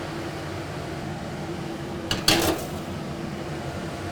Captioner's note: mixer whirring